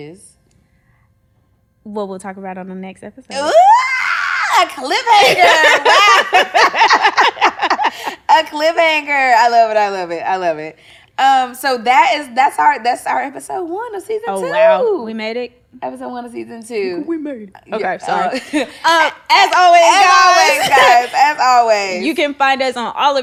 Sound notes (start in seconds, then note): 5.1 laughing